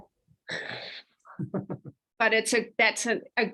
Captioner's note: chuckles